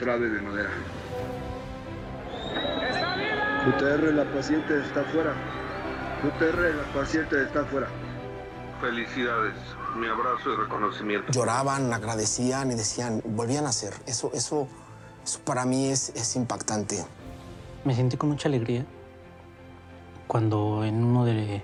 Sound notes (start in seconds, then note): 6.2 shouts